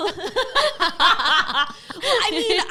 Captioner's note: laughs